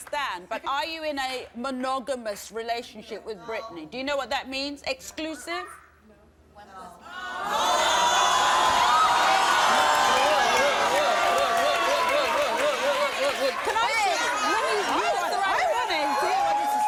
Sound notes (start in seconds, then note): 7.2 audience shouting and yelling